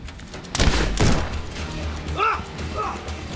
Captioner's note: gunshots blasting